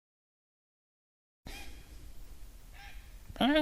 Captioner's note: bird squawks; imitates bird squawk